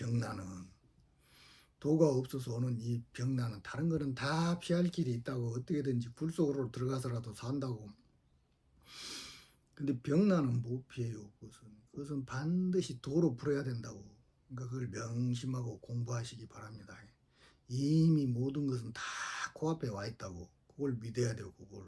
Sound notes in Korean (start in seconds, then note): 8.9 콧방귀